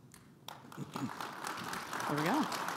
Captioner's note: audience applauding